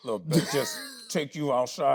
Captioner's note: Tyler laughing